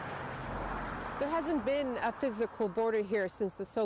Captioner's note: a car drives